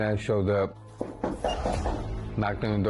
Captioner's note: knocking